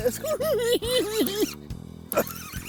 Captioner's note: cackling